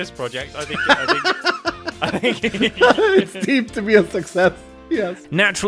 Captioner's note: laughs